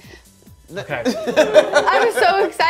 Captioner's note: laughter